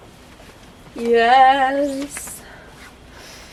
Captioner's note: singsong